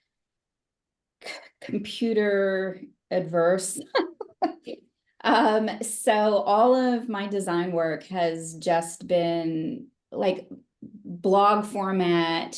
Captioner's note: laughs